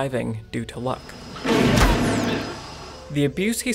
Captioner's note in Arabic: طلق نارى